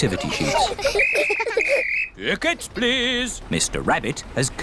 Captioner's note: blows whistle